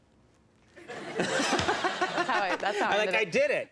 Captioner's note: laughter